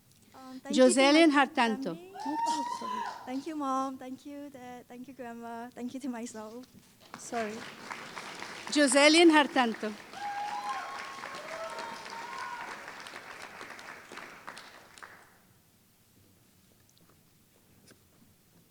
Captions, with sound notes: Thank you Mom, thank you Dad, thank you Grandma, thank you to myself. Joselin Hartanto [Applause]